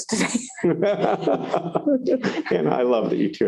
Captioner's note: laughter